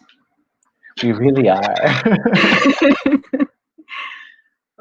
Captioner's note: both laugh